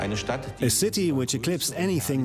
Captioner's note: man's voice